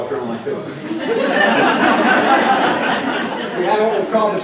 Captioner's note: laughter as waddles with arms puffed out to sides